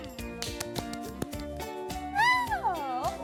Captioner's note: clap clap; applause